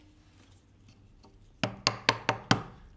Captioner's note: quiet hammering